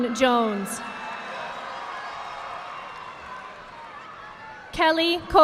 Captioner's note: audience applauding